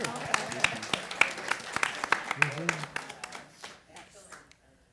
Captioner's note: chatter and laughter; applause